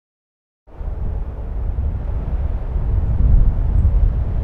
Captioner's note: wind humming